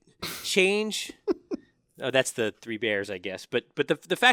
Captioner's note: laugh